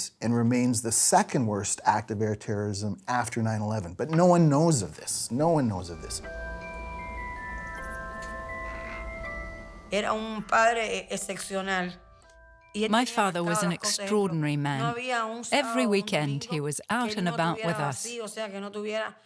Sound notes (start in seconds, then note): 9.6 speaking in Spanish